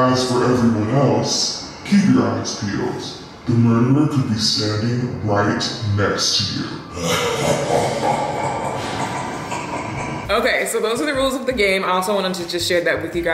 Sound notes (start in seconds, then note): 6.8 evil laughing